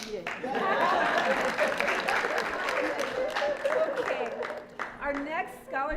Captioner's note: applause